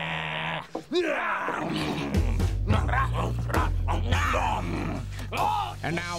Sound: chomping

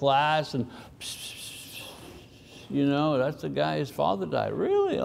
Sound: whispers

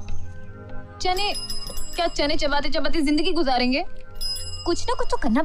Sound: cycle bell ring; cycle bell rings

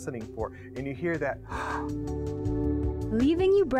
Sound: gasp

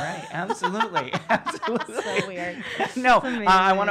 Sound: laughing

